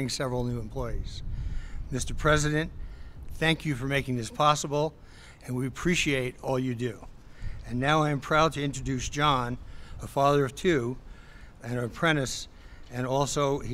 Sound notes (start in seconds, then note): none